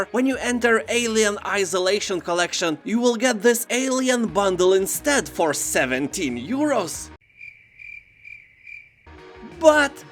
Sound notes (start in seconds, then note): 7.2 crickets chirping